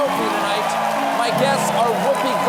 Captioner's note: applause